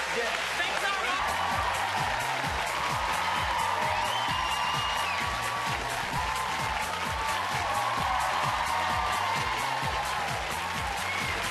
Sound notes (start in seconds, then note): 2.3 crowd cheering; 2.8 applause; 10.9 cheers and applause